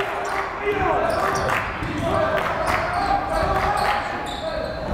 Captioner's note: yelling